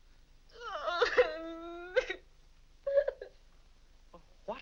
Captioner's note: Vinnie cries